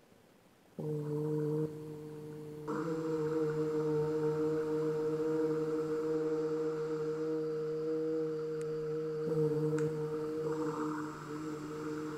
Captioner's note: soft sounds of 'u'